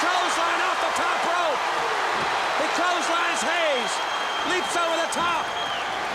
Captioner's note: crowd cheering